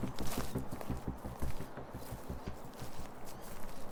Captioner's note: footsteps on leaves